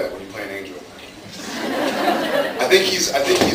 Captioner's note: laughs